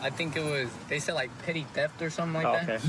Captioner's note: laughs